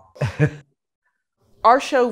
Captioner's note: chuckles